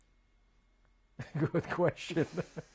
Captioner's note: laughs